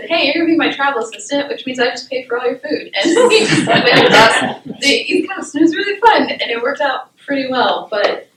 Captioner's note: laughter